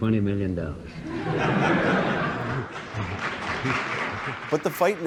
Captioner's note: applause; laughter